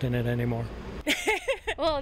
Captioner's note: laughter